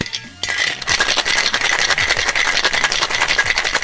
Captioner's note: ice shaking